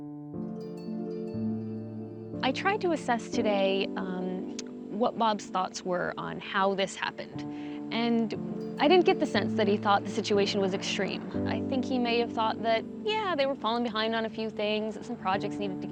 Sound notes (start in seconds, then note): none